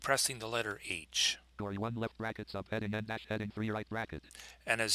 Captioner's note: synthesized speech